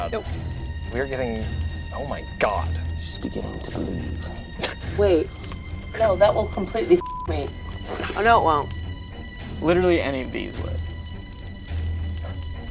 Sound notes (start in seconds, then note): 7.0 beep